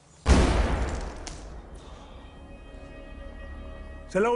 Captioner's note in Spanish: Explosión